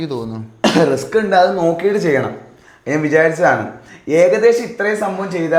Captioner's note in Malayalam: തൊണ്ട ശരിയാക്കുന്നു